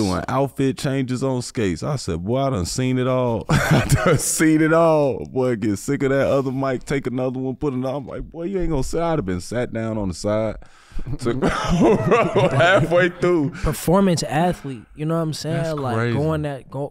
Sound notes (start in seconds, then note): 3.4 chuckling